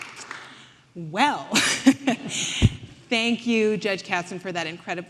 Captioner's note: laughing